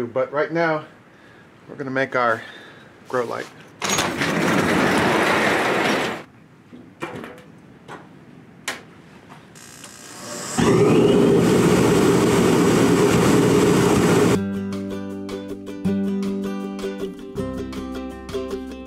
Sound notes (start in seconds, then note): 3.8 garage door closing; 10.6 strong air blowing; 14.3 upbeat acoustic music